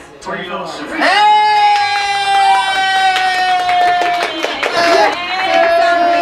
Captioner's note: cheers